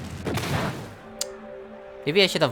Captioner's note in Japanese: 舌打ち